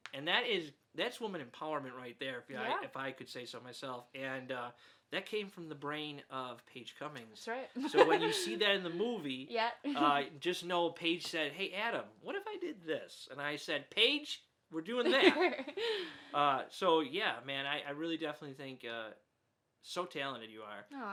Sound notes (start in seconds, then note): 7.8 laughs